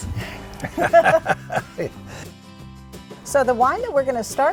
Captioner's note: laughing